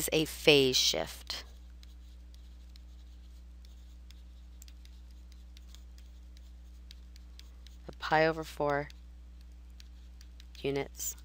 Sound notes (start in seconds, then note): 1.2 silence